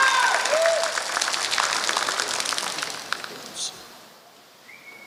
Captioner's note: applause